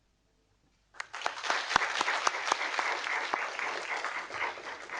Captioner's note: audience applauding